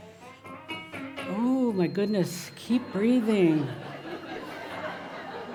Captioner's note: laughter